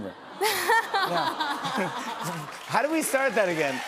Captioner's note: audience "Awws"